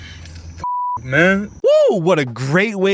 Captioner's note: beep